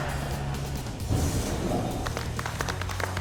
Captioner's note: applause